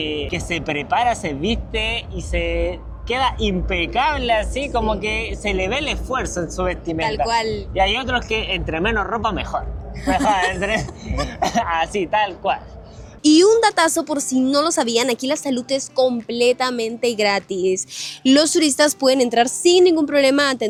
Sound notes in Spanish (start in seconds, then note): 11.0 carraspeo